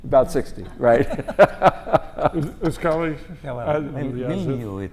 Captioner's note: laugh